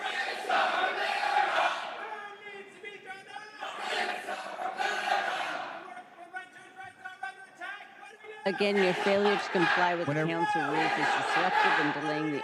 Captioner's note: crowd chanting